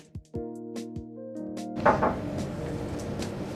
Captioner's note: knock on door